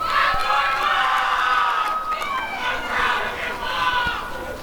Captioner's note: applause and cheering